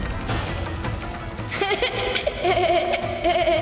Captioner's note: laughs